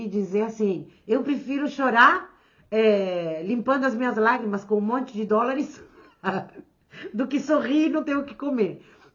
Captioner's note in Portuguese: risadas